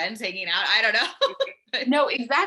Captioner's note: laughing